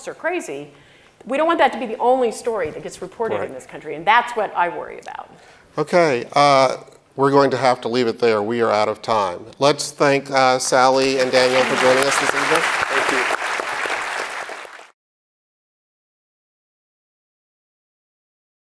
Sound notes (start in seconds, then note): 12.9 audience applauds